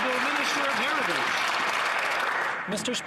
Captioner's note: some Applause